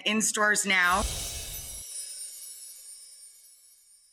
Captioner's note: chimes ringing